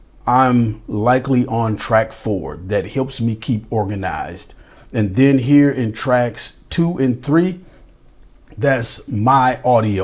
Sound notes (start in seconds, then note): none